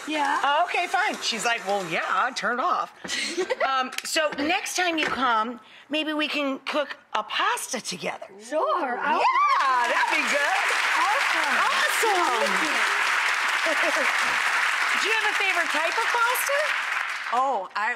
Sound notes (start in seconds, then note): 3.6 chef laughs; 11.3 audience claps